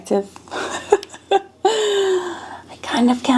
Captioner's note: person laughing